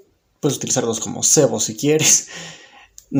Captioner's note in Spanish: none